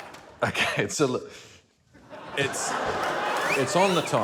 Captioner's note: chuckles